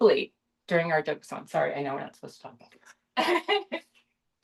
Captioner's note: laughter